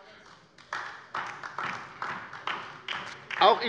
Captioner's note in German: Beifall bei der LINKEN